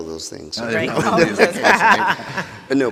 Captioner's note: people laughing